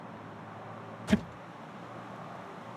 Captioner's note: car unlocks